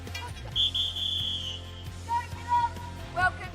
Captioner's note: whistle